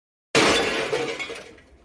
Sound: crash

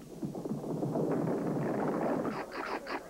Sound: people stampeding

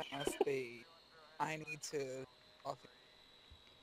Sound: mic cracks

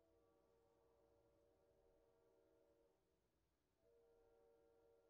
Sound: train whistle in distance

